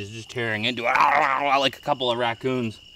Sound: growling

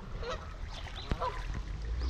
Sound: splashing; goose honking; boat motor running

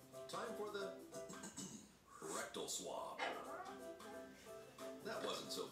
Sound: clears throat

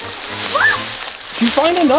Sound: assistant screams

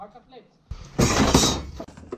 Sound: rattling; clattering

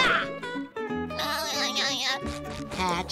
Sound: giggling

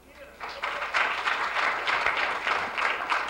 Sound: applause

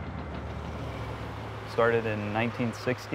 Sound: heavy machinery

